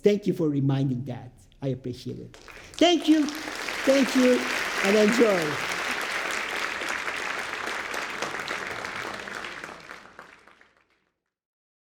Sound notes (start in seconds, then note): 2.4 audience applauds